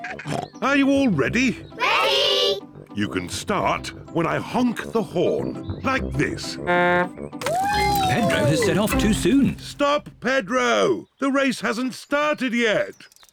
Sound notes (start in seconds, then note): 0.3 snorts; 6.6 honks horn